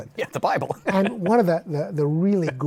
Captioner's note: laughs